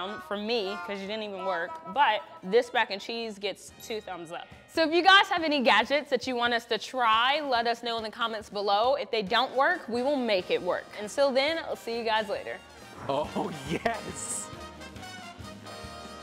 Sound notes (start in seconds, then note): 13.2 voiceover